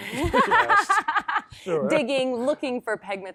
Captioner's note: laughs